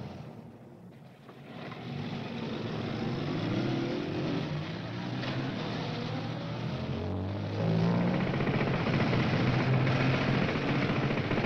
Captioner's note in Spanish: ROMBO DEl MOTORl